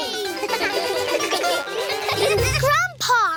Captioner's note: all giggle